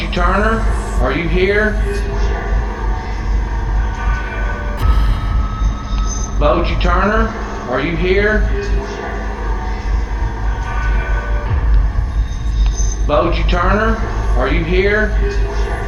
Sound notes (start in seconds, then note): 2.4 ghostly voice; 9.2 ghostly voice